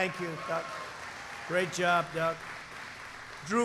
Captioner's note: applause